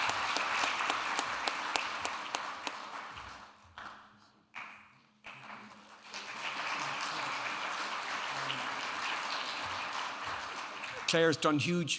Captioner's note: audience applauding